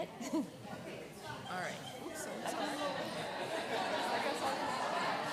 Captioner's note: background chatter